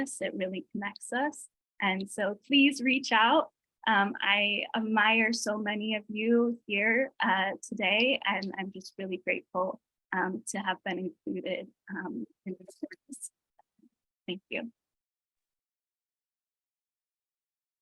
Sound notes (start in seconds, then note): 12.6 distorted audio